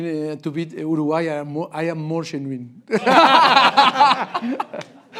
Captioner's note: robust laugh break